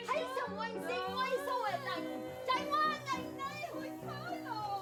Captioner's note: yelling